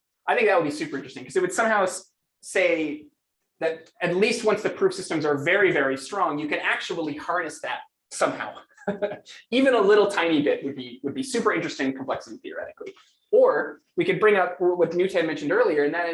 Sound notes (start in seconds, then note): 8.6 laughs